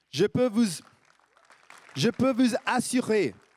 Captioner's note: applaudissements